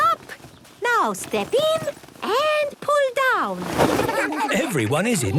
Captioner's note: laughter